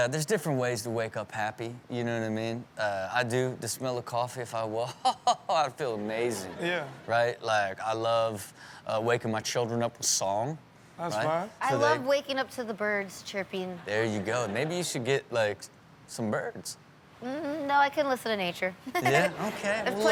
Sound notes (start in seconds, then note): 18.8 laughs